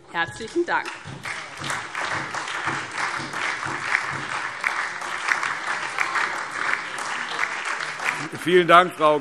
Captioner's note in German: Beifall SPD und DIE LINKE